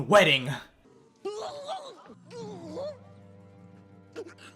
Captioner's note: Not-Joffrey choking